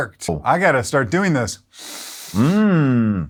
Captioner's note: inhales sharply